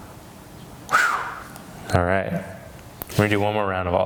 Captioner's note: exhales sharply